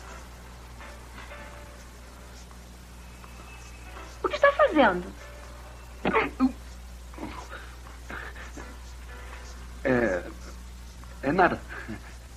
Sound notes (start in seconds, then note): 4.9 groans; 4.9 head Thuds